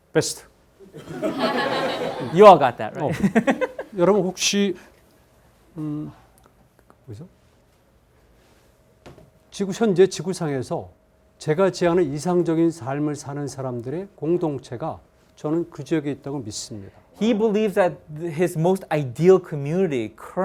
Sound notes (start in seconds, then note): 0.9 students laughing; 4.0 laughs; 4.3 speaking in Korean